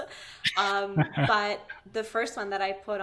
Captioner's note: laughing